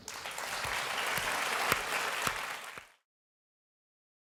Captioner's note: applause